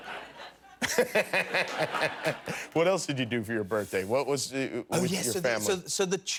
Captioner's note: laughter